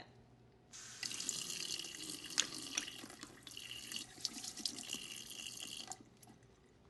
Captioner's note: water runnimg